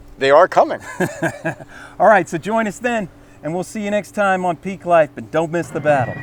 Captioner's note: laughs